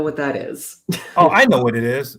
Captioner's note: laughs